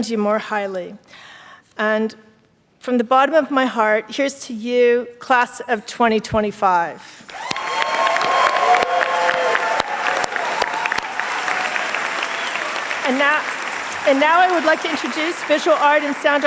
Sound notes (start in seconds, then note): 9.4 applause and cheers